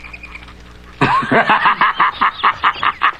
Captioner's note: laughing